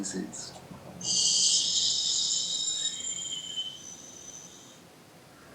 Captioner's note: metallic whistling sound hissing